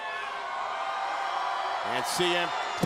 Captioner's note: crowd cheers